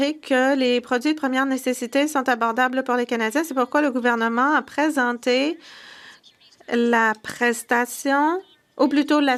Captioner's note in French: voix de l'interprète